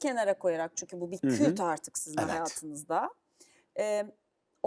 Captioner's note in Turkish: boğazını temizler